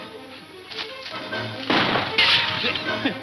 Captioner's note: gunshot